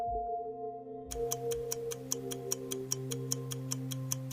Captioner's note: clock ticks